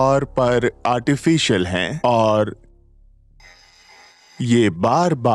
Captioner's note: radio signal squeaks